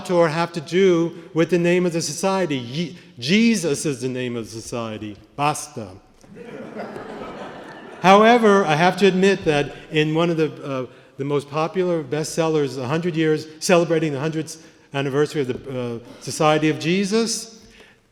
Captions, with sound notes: have to do with the name of the society? Jesus is the name of society? [italian] [laughter] However, I have to admit that in one of the most popular bestsellers celebrating the 100th anniversary of the Society of Jesus,